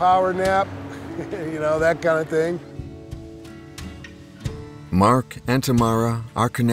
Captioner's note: chuckles